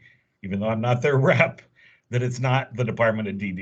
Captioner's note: chuckle